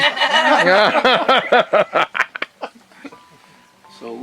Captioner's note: laughter